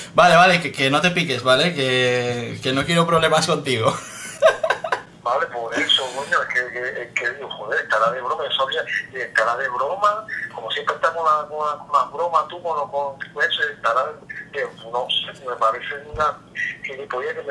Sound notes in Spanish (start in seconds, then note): 3.9 Risas